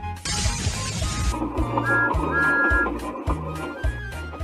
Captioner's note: whistle